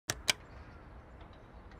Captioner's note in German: Klicken